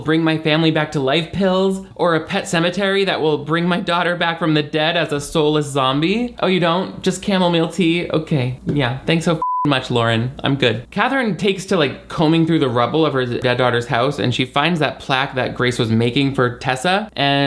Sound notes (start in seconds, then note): 9.4 beep